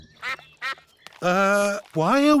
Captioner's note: sucks quacking